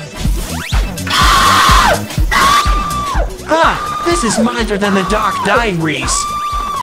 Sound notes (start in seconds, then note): 1.0 screams in agony "speed" way; 3.5 Tails continues screaming; 6.0 Tails can't stop screaming in background